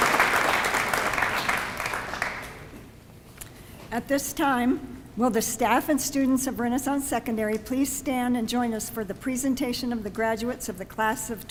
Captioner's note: applause